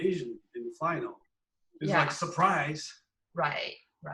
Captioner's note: laughs